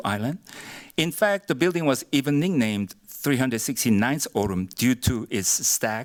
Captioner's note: korean